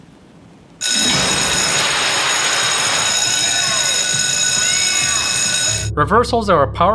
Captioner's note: buzzing